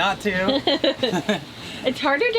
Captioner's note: both chuckle